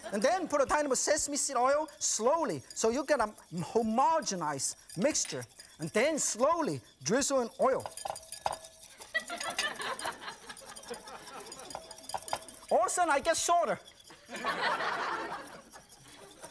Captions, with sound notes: And then put a tiny bit of sesame seed oil, slowly, so you get a homogenized mixture. And then slowly, drizzle in oil. (audience laughing) All a sudden, I get shorter!